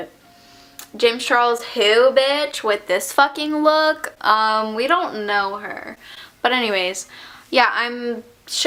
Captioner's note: inhale